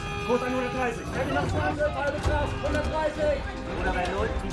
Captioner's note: bell ringing; alarm blaring; men chattering; man speaking in foreign language